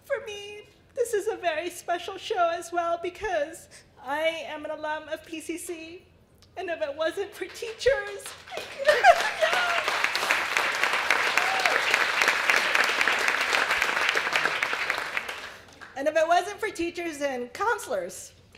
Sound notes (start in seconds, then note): 7.3 sobbing; 7.4 applause